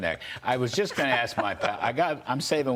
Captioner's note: laughter